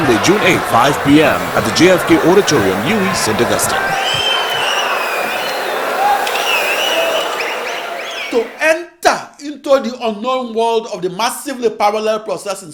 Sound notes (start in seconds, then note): 5.4 wild applause and cheering for 22 seconds